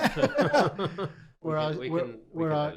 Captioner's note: both laughing